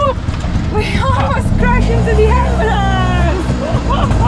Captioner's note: laughing